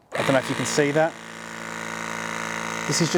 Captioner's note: press gun vibrates loudly